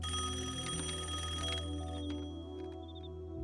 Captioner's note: rings